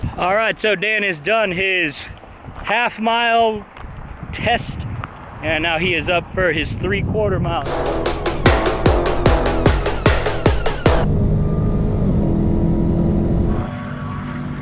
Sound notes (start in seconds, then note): 7.6 dramatic music; 11.3 engine revving